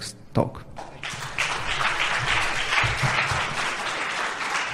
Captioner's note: applause